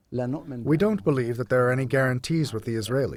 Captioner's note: through translator